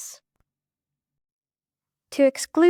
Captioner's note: more silence